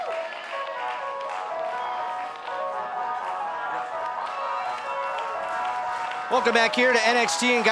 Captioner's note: cheers & applause